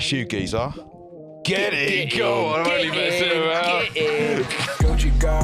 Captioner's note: laughs; outro music